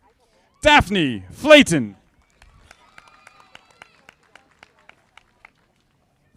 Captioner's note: audience applauding